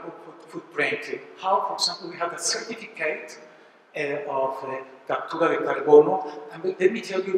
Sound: spanish

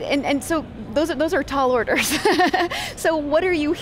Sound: laughs

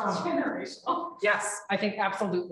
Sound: laughing

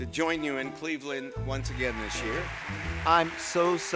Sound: audience applauding

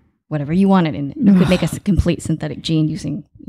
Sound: gasping

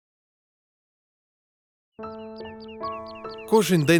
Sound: the birds are singing

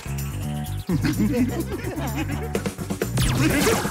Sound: laughing

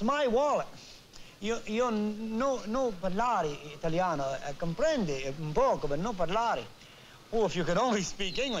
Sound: speaking italian

